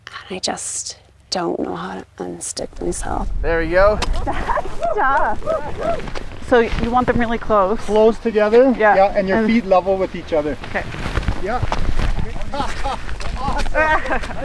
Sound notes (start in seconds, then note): 5.5 group cheers; 12.2 laughs